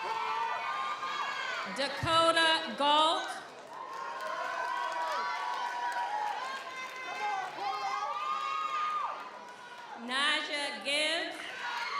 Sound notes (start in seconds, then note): 3.4 audience applauds; 3.6 audience cheers